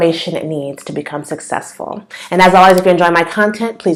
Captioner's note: click; click